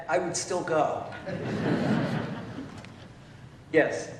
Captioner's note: laughter